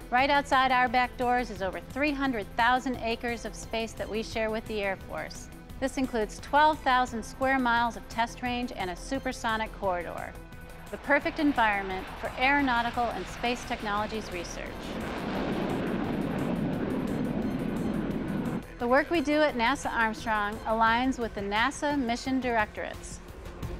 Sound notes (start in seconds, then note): 15.8 jet aircraft taking off